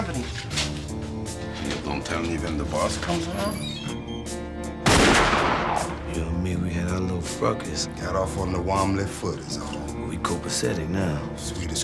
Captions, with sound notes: You don't tell me when the boss comes around? ( gunshot ) You and me, we had our little fracas. Got off on the wombly foot is all. - But we copacetic now. - Sweet as Cracker Jack.